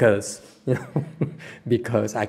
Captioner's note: laughter